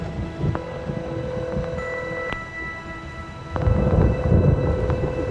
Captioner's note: suspenseful music; thunder rumbling; line ringing